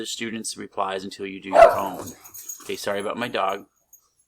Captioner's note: dog barks; silence